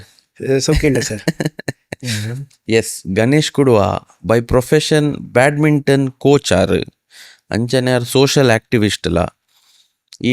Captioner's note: laughter